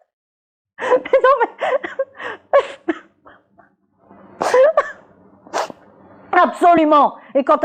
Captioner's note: she laughs then cries